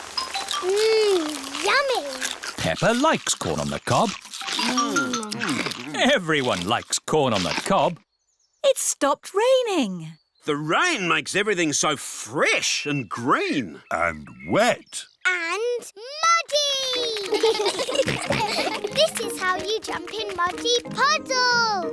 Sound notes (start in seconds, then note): 16.9 children giggle